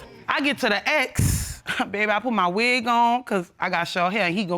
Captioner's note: scoffs